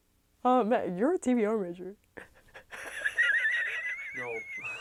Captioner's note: laughing